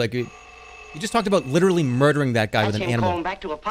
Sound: phone rings

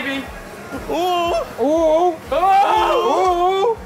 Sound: fake moaning

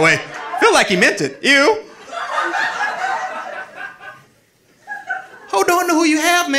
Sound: audience laughing

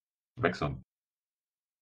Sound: fast Pronunciation

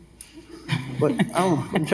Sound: laugh

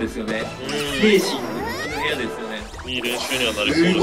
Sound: laughs

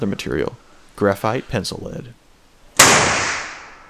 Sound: bang

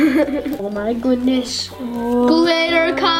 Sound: giggles

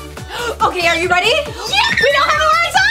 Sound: shrieks

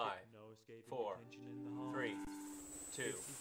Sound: screeeeeech

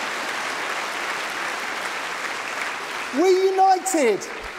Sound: applause

